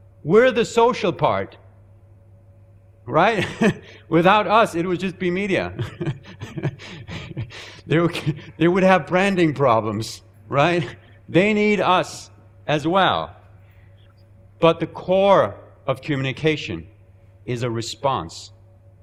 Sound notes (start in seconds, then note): 3.3 chuckling; 5.7 chuckling